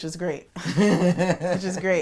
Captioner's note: laughs